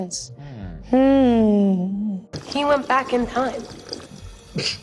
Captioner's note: Maya humming